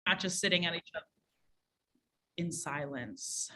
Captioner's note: audio distortion